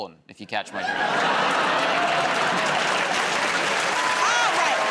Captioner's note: laughter, applause